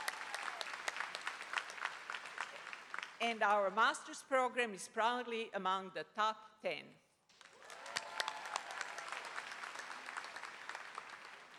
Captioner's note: applause